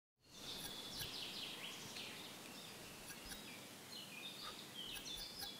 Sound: birds, forest sounds

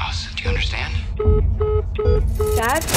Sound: phone beeping

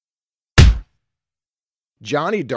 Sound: punch sound

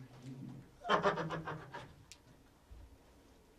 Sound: Spider’s Devil Laugh

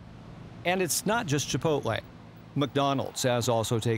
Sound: voiceover

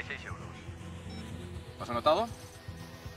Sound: beep

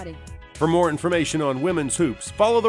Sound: voiceover

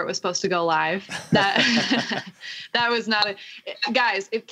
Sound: laughter

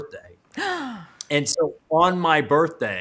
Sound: gasping

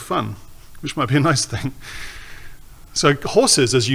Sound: chuckles

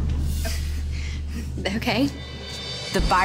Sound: sighs

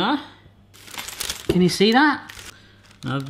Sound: parchment rustling

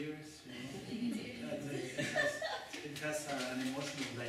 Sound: laughter

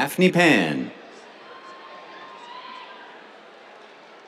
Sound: cheers

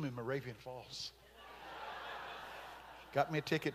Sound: congregation laughing

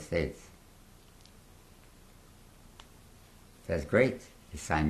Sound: pauses for 3 seconds

